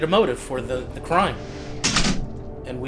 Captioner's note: door clicks shut